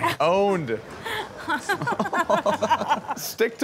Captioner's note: laughing